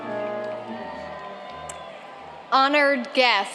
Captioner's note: applauding